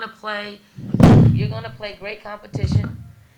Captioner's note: microphone thudding